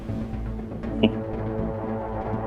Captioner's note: chuckling